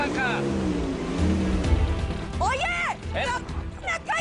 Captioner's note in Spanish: Ruido al acelerar